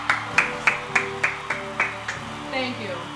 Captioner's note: applause and music resume; claps for self again